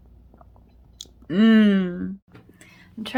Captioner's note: swallows